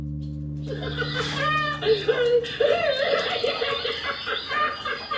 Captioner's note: evil laughter